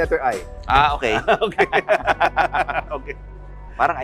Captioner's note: both laughing